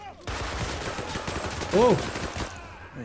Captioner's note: gun fires